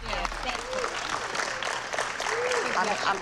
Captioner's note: applause